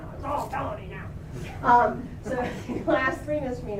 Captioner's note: laughter